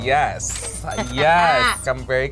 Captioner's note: cash register rings